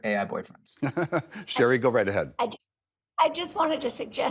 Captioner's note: laughs